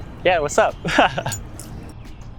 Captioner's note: laughs